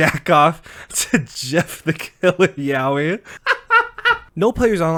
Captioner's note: laughing